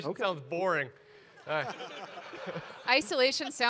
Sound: audience laugh

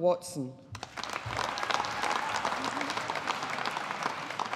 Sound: audience applauding

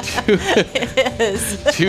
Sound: laughing

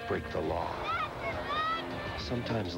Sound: boy, yelling happily

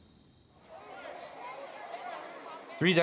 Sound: people talking in background

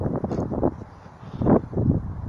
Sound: wind blowing again

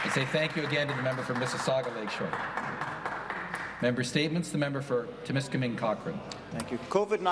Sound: applause

